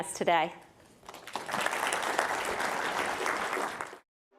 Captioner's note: applause